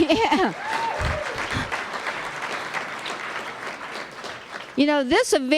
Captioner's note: laughter; applause